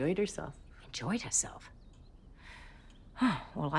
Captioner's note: sighs